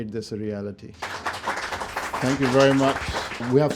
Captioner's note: audience applauding